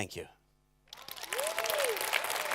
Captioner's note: applause